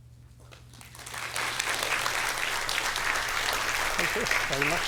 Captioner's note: applause